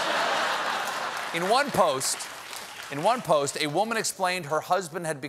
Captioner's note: laughter; applause